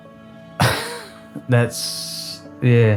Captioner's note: laughs